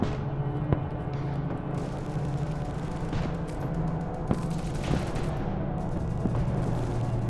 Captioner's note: ominous music; guns firing